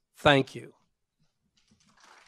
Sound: applause

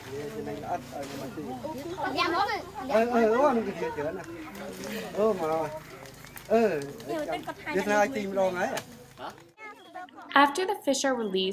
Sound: sounds of students and teachers as they work

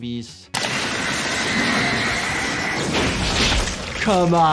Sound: electricity sparking

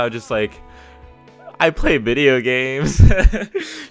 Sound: laugh

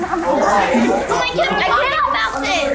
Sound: group chuckles and chatters

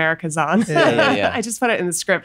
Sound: laughs

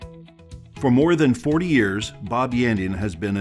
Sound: voiceover

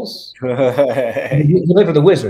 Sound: chuckles

